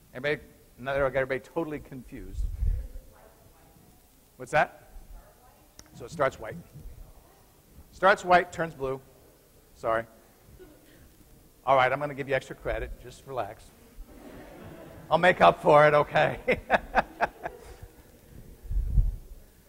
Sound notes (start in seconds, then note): 15.9 chuckles